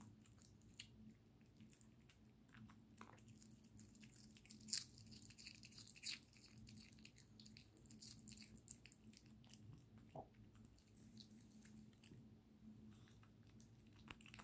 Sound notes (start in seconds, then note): 4.6 cabbage breaking sound; 6.1 양배추 부러지는 소리